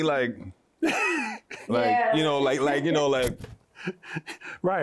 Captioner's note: laughter; laughs